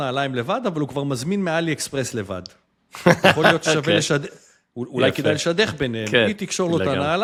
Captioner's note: laughter